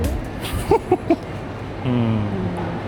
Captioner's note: laughs